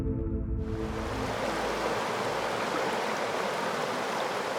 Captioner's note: water roars